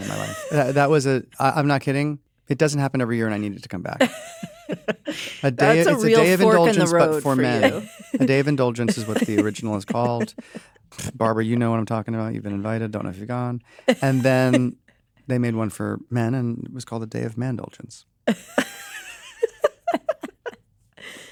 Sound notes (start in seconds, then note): 0.0 chuckles; 3.9 laughter; 19.2 all laugh